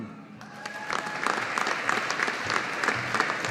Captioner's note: audience applauding